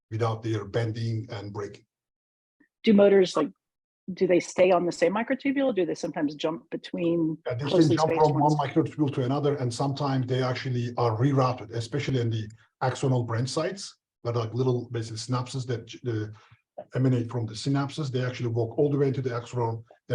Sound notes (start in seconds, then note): 7.5 overlapping chatter